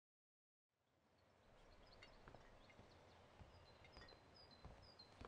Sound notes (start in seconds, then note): 1.0 birds chirping